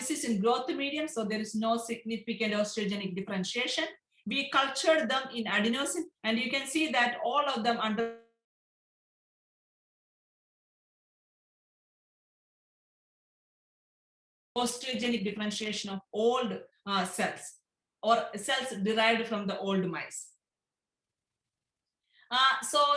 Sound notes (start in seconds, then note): 10.4 audio interrupted